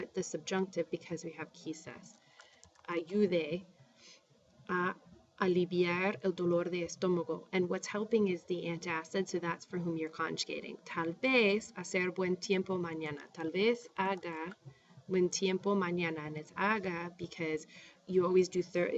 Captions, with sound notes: And we're going to put the subjunctive, because we have [spanish]. [speaking spanish] And what's helping is the antacid. So that's for whom you're conjugating. [speaking spanish] [speaking spanish]